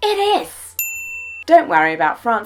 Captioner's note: ding